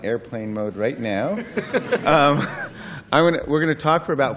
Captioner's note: laughter